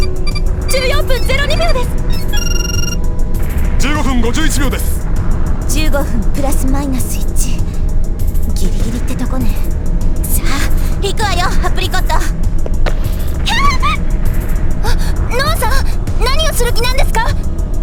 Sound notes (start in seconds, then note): 13.4 panicked cry